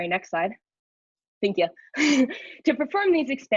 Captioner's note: chuckles